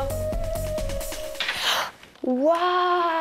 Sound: gasps

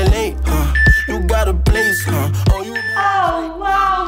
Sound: timer beeping

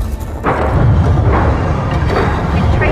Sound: trapdoor opens; Lucy through radio

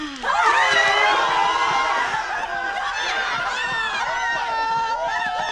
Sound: cheering

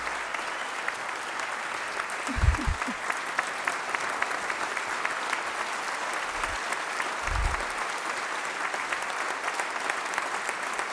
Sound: applause

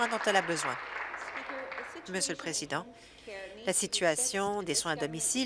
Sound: applause

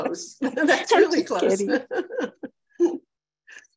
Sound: laughs

